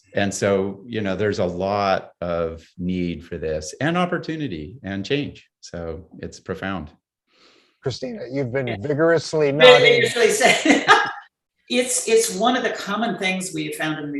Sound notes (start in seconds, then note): 9.6 laughs